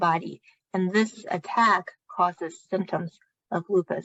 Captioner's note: speaking chinese